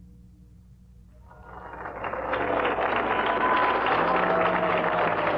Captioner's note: applause